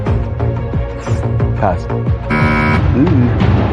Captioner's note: buzzer sounds